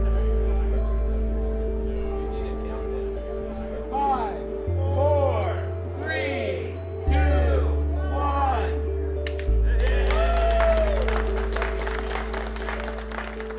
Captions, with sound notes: (Crowd) Five, four, three, two, one. [applause]